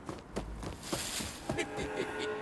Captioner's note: boots stomping; leaves rustling; leprechaun laughing